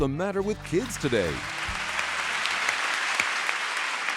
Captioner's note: applause